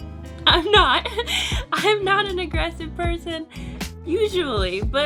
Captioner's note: laughs